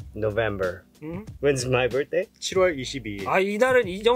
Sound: speaking in Korean

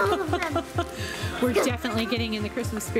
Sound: laughs

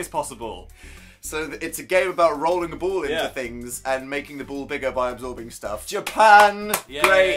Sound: clapping

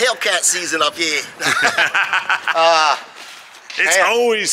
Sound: laughing

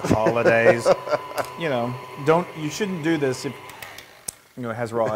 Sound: laugh

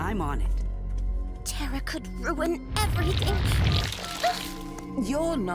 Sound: beeping

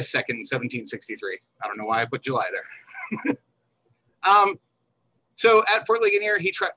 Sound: chuckles

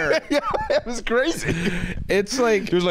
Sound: laughs

